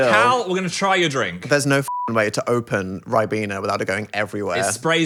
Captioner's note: beep